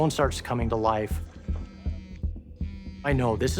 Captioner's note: tense music; phone buzzing